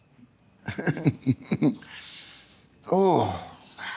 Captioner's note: laughter